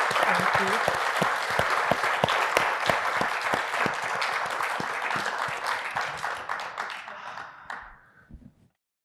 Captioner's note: audience applauding